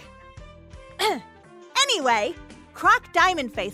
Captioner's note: ahem